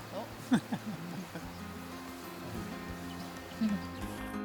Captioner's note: both laughing